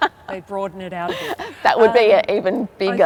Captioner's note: laughs